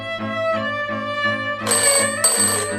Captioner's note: phone rings